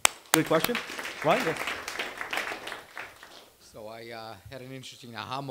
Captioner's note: applause